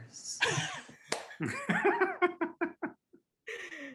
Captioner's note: all laughing